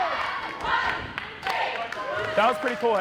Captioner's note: cheerleaders chanting